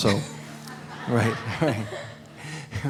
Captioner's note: laughter